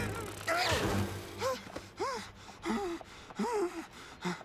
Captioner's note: continues straining; panting